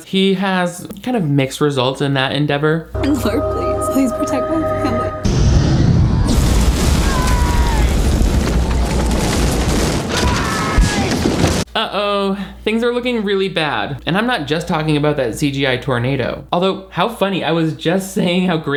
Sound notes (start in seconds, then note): 5.2 wind gusting; 8.2 tornado whooshing